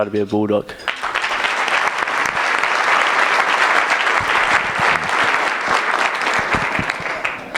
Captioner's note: applause